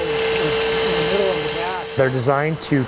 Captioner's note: cutters humming